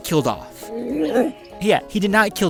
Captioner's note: speaks alienlanguage